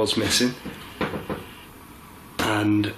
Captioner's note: creaking